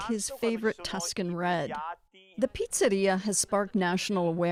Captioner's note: speaking alternate language